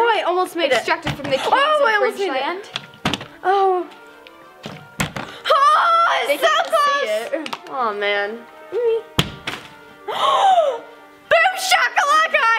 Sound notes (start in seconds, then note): 10.0 gasping